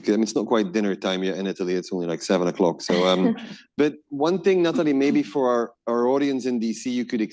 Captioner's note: laughter